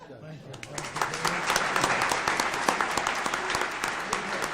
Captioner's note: audience applauds